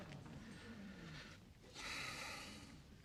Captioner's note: menghela napas